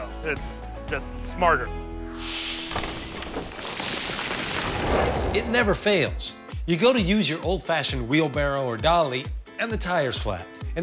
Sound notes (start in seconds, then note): 2.1 wind whooshes; 2.6 rocks clatter